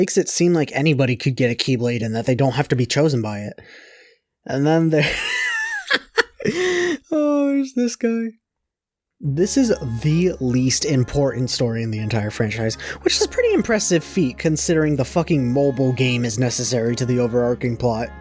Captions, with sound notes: seem like everyone can get a keyblade and that they don’t have to be chosen by it. And then there’s- *laughs* This is THE LEAST important story in the entire franchise. WHICH IS A PRETTY IMPRESSIVE FEAT CONSIDERING THE FUCKING MOBILE GAME IS NECESSARY TO THE OVERARCHING PLOT.